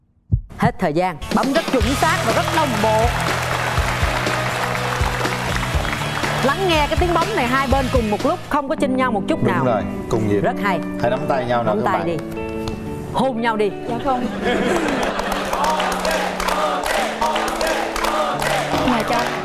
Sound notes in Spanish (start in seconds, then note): 3.9 aplauso; 14.0 risas